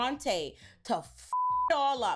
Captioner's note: beep